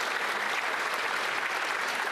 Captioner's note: some Applause